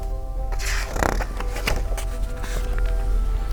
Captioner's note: page turns